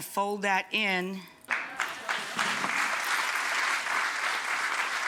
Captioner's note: audience clapping